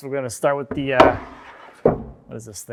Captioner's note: cyclone thuds